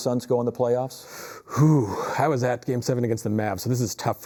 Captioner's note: sighs